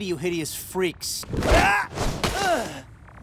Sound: groaning

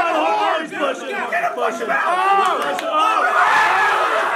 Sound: all yelling

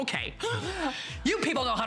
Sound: laughter

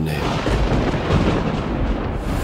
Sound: thundering

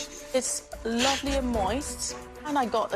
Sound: relieved laughs

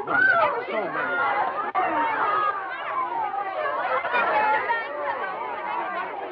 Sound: ladies talking

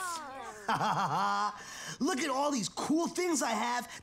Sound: laughing

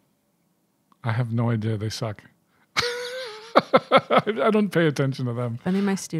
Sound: chuckling

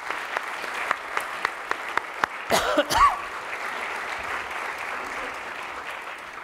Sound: applause

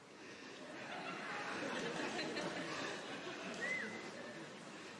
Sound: audience laughing

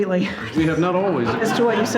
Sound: people laughing

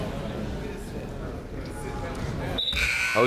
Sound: chatter

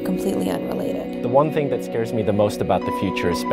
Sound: voiceover

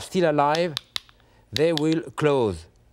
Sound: mussels clack

